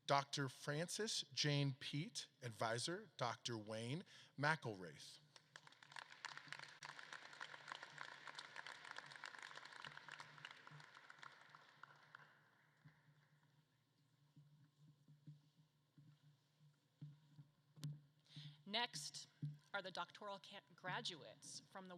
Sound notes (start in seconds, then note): 5.1 audience claps